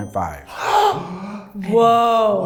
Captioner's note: sighs; gasps